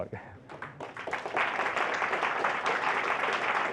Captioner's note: applause